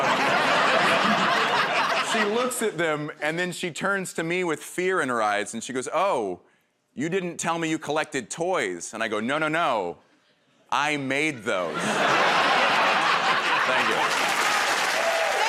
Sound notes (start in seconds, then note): 0.0 laughter; 11.7 laughter